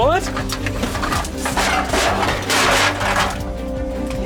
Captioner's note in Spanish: Clanging